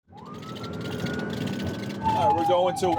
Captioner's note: siren wailing